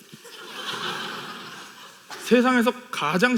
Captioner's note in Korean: 웃음